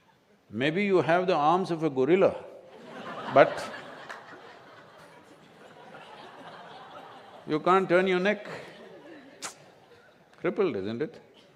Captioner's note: laughter